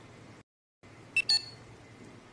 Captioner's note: laptop beeps